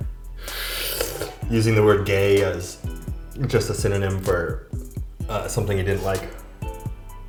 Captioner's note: sucks in